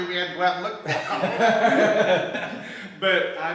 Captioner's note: laughs